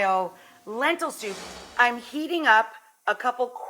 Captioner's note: air whooshes